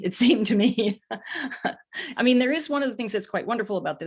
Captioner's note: laughs